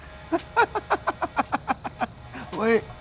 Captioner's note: bird laughs